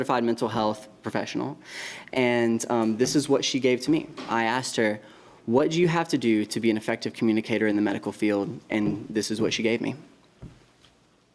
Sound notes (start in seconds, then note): none